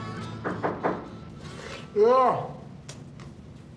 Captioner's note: hand knocking